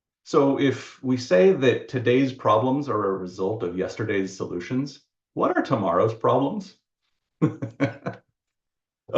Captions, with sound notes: So if we say that today's problems are a result of yesterday's solutions, what about tomorrow's problems? (laughs)